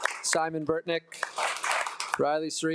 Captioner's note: attendees applauding